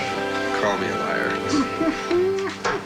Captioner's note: doug chuckling